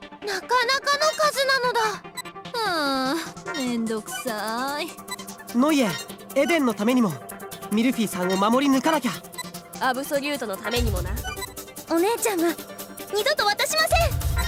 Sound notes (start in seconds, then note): 3.0 sigh